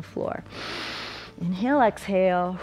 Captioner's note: inhales; exhales